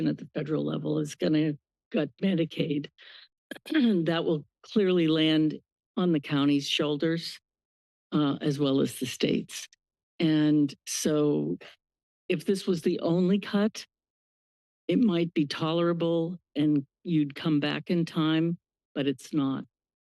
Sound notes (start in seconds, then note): 3.2 clears throat